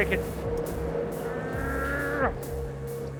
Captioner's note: grunt